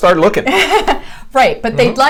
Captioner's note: laughs